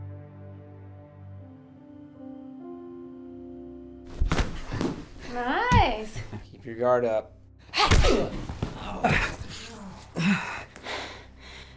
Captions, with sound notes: - Nice. - Keep your guard up. - Hyah! (groans) (grunting)